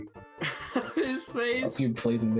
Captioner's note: chuckles; chuckling